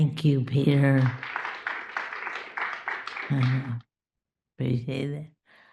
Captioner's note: applause